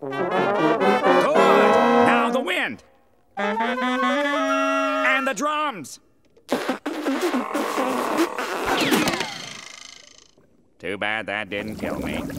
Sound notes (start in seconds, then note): 0.0 brass instruments playing; 6.4 spitting